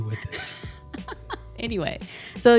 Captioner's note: laughing